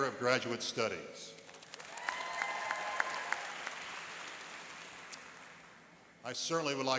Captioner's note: cheering and applauding